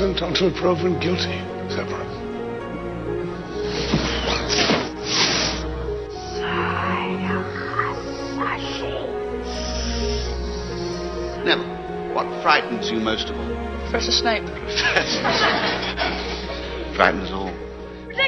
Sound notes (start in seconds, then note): 4.7 Muttering in Parseltongue